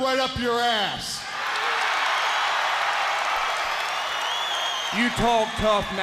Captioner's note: crowd cheering